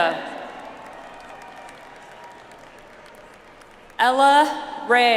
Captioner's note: audience applauds